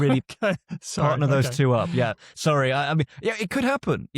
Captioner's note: laughs